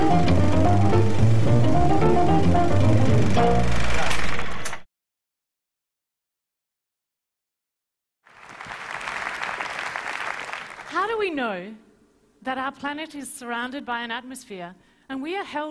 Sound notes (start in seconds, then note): 0.0 intro Music; 8.2 applause